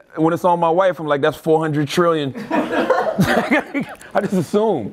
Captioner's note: group laughter